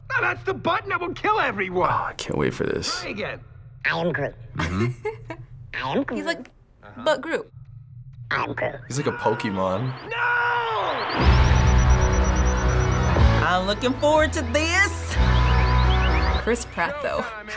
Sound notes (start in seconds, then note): 4.5 laughing; 11.1 hard rock music